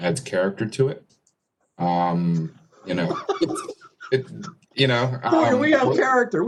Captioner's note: laughter